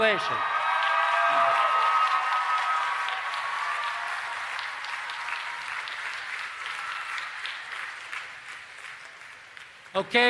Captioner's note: applause and Cheering